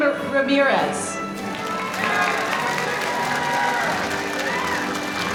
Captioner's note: audience applauding